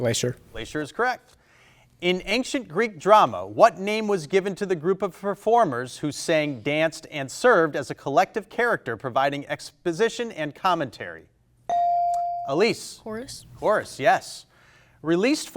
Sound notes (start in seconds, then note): 11.7 buzzer chimes